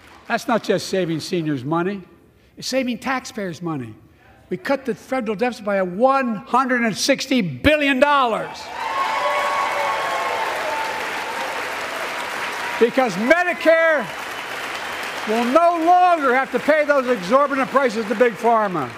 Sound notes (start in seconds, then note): 8.7 applause